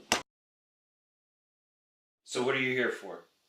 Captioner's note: door clicks shut